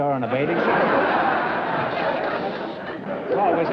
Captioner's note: laughter